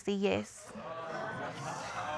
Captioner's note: audience exclaiming